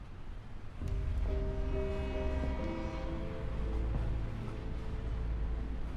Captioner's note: train horn, slow footsteps; train horn